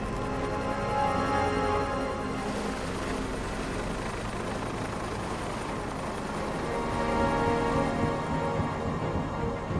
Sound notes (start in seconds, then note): 0.7 fire crackling